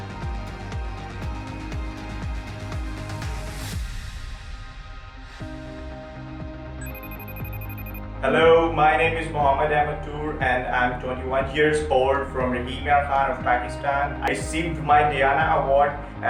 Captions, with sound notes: (phone rings) - Hello, my name is Mohammad Ahmad Toor, and I'm 21 years old from Rahim Yar Khan of Pakistan. I received my Diana Award